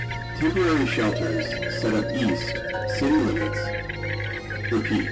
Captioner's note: radio announcement